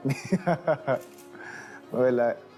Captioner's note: Manny chuckling